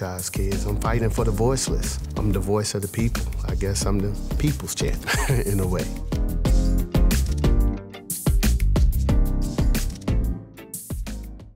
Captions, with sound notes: I'm fighting for the voiceless, I'm the voice of the people. I guess I'm the people's change [chuckles] in a way. [upbeat music]